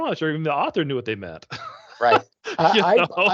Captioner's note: chuckling